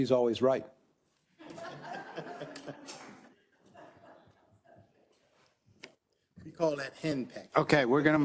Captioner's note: laugh